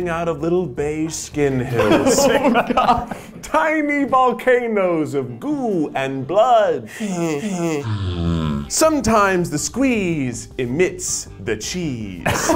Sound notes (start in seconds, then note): 1.7 laughs; 6.9 gags